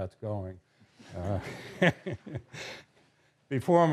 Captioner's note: laughter